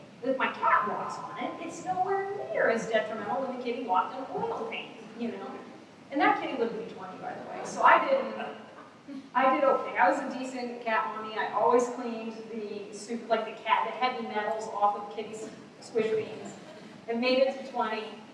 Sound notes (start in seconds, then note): 8.3 laughter